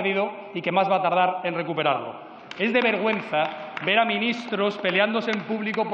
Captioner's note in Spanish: Aplausos